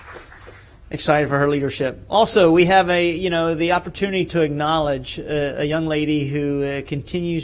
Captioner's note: applause